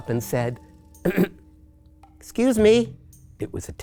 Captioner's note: clears throat